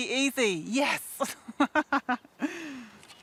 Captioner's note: laughs